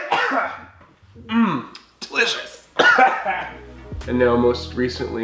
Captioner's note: coughing; coughing